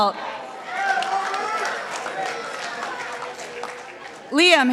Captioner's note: participants applauding